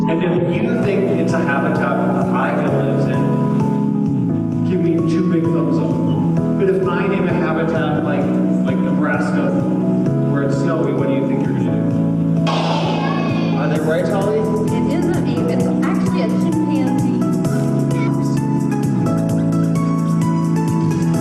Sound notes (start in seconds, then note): 12.5 students shouting; 17.4 soft soothing music